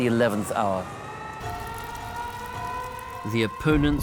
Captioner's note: sirens